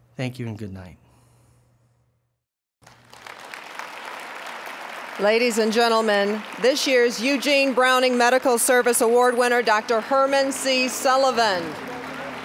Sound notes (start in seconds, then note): 2.8 applause